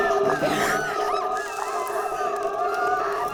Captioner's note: monster howling; group screaming